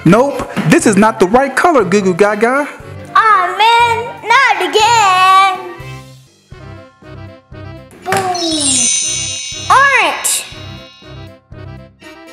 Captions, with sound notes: - Nope, this is not the right color Goo Goo Gaga. - Ah man, not again. Boom. (chimes) Orange.